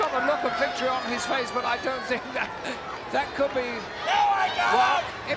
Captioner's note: laugh